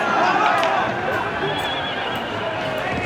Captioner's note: crowd in uproar